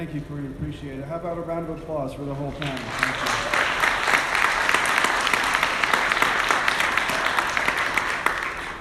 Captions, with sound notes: - Thank you I really appreciate it. How about a round of applause for the whole panel. (audience applauding)